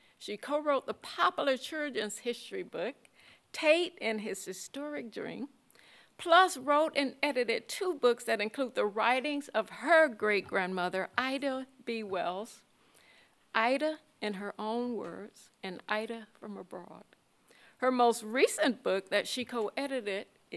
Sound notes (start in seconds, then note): none